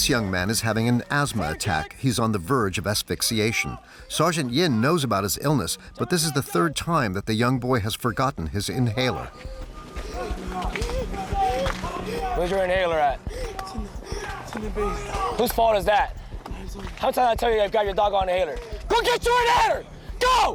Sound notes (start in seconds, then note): 10.5 candidate gasps